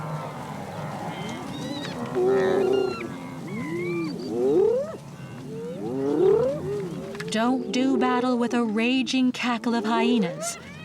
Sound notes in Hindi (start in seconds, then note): 2.3 लकड़बग्घे भौंकने की आवाज़